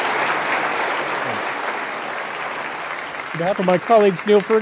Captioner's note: applause